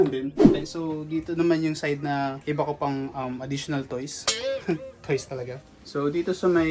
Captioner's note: laughs